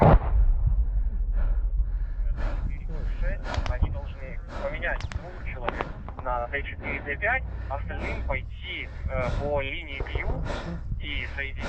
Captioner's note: panting